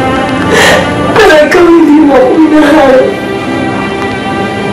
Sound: cries

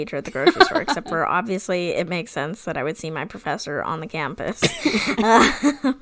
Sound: laughs

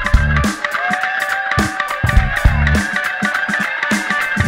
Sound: audience cheers

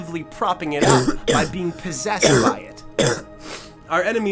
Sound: coughing

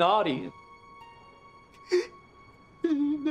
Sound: crying

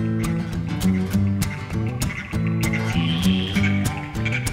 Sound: frogs croak

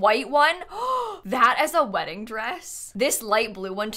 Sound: gasps

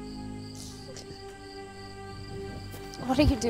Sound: sobbing; emotional music

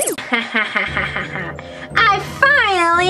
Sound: evil laughter

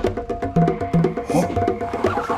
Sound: car screaching in distance

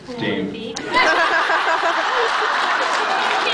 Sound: laughs

